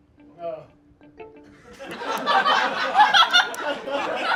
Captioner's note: audience laughs